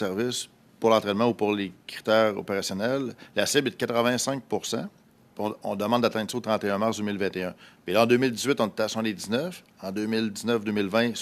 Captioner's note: speaking French